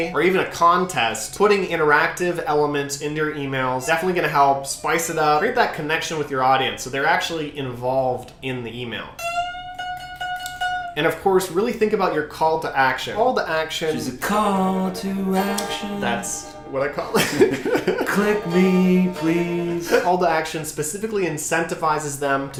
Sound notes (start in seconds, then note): 9.1 guitar riff; 17.1 laughs